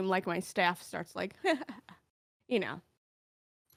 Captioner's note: chuckles